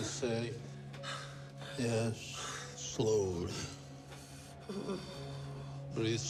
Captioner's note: Palle breathes deeply